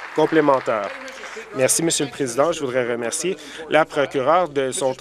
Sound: applause

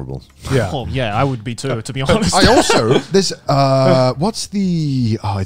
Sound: laughing

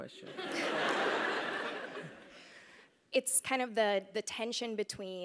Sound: laugh

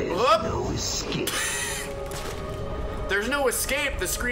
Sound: laughs

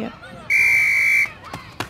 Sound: whistle

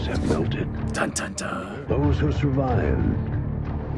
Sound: voice-over; voice-over

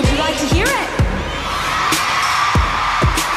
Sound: cheers and applause

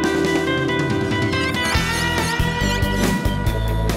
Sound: squeaky clean sounds

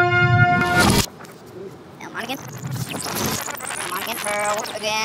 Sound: screeching in reverse

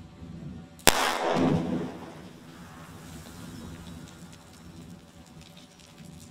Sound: explosive booming; rocks clattering

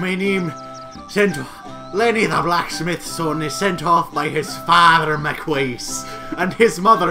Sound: Scottish accent

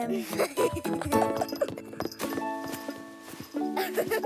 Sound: Lalloo giggles

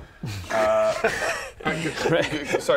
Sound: "shocked" noises

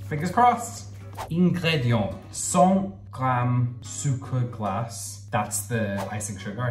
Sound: speaking in foreign language

